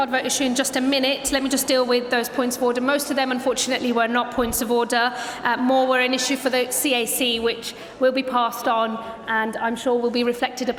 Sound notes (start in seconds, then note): none